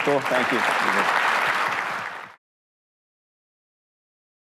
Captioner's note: audience applauding